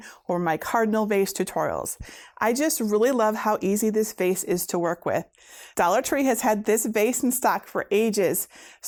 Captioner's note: none